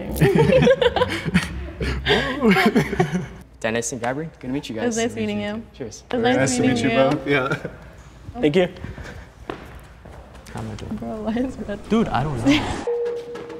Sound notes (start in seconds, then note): 0.0 both laughing; 2.8 laughs